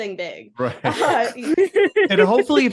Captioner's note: laughing